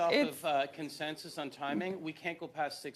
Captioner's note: mixed voices